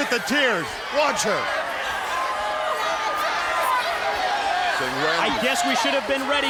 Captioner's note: crowd chatter